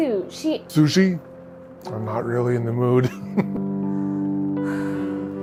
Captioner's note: chuckling; slow jazzy music continues